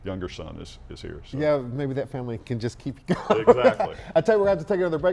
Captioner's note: laughs